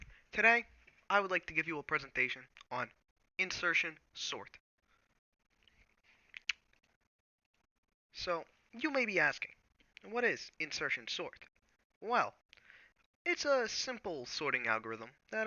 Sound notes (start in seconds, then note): 6.3 lip smack